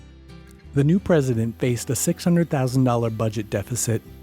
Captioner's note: voiceover